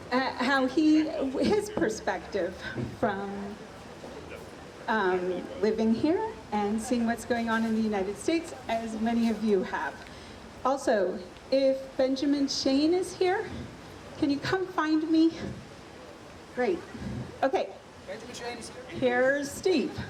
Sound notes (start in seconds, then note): none